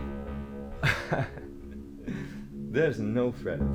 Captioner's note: Captain Brookes laughs